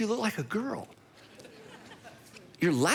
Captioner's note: audience laughing